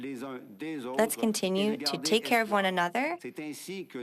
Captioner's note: speaking French